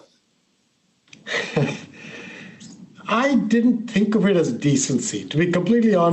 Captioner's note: chuckles